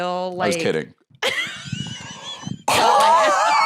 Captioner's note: laughs